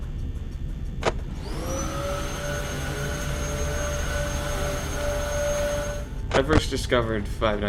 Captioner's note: Mr. Hugs Vacuuming